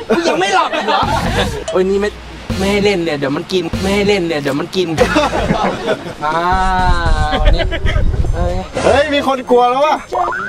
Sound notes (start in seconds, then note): 4.9 laughs